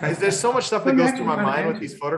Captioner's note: laughs